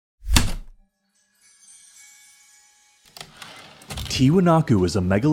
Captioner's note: heavy typewriter keystroke, light chimes, typewriter return slide